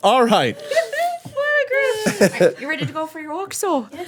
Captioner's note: laughing